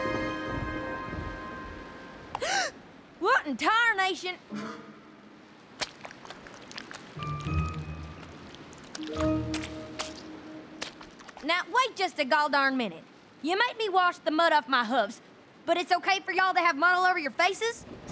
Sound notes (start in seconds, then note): 2.3 gasps; 5.7 glop! squish!